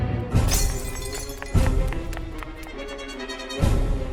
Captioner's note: glass breaks outside; footsteps running away